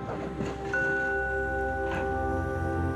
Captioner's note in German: Sanfter Klang